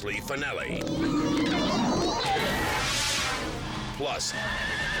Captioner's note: bear roars; victim screams; horse neighs